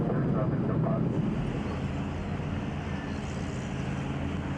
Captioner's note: vehicle motor humming